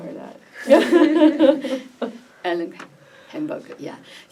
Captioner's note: laughs